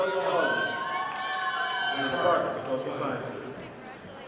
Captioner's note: audience applauding